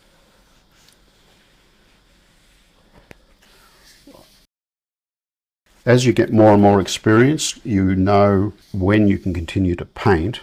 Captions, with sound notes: [silence] As you get more and more experience, you know when you can continue to paint,